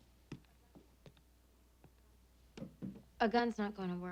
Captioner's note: footsteps tapping